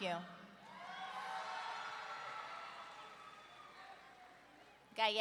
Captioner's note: audience cheering